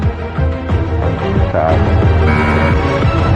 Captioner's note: buzzer sounds